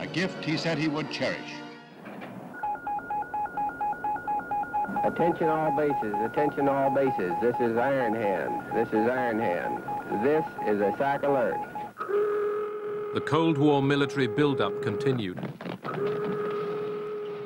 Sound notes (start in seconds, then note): 12.0 alarm siren